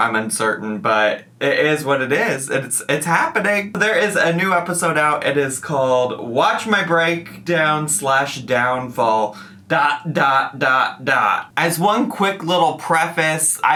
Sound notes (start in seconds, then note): none